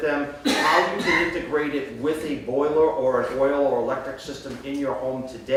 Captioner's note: coughing